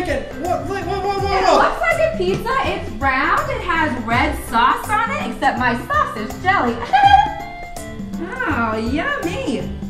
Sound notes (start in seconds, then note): 6.7 Mickey chuckles